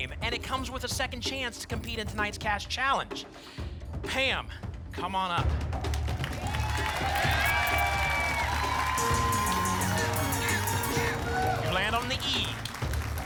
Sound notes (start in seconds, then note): 5.8 applause and cheering; 8.9 pinging sounds